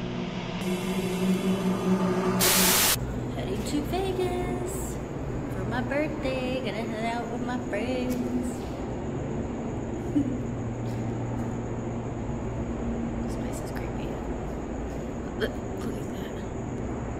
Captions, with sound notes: (TV static) - Heading to Vegas! For my birthday, gonna hang out with my friends. (Destiny chuckles) This place is creepy. Look at that.